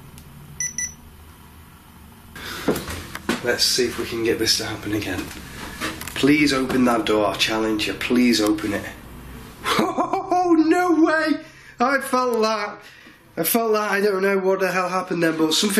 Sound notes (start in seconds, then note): 0.6 beeping; 9.6 laughing